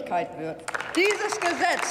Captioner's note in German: Applaus